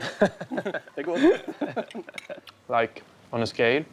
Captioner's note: laughing